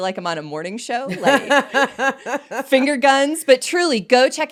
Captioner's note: laughing